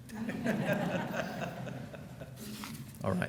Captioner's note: laughing